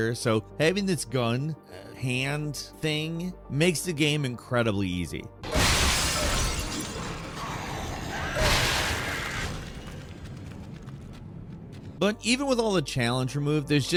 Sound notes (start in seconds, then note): 5.4 glass shattering; 5.5 aliens groaning